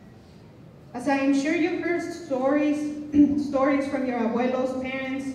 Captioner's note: non-english speech